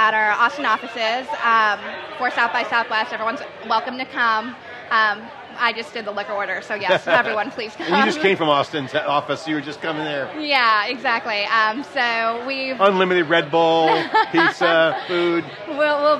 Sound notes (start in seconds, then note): 6.8 laughing